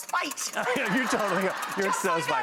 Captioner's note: audience laughs